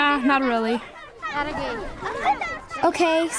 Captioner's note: boy's English Voiceover